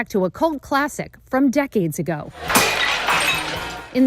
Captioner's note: glass breaking